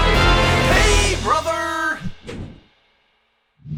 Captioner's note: voiceover